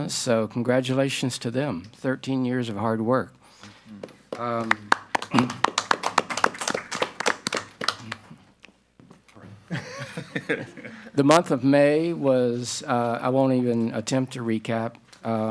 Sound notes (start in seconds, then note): 4.0 group applauding; 9.7 group laughing